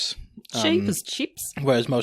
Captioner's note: australian accent